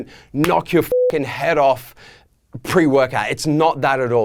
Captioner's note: beeping